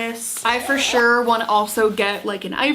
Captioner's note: zipper raps